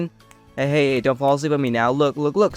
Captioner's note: snaps fingers